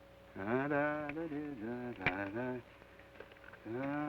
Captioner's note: hums melodically